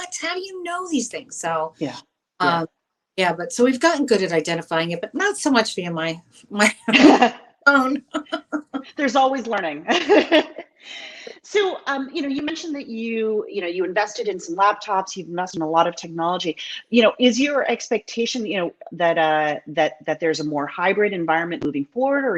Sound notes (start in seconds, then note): 6.8 laughs